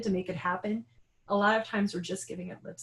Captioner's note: none